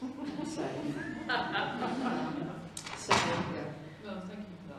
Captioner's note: laughter